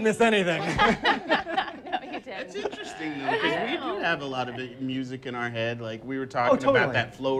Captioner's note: laughs